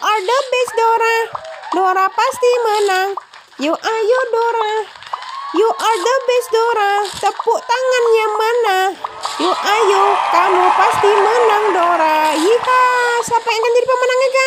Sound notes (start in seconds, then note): 3.8 laugh; 4.8 clap